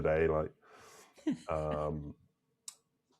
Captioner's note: laughing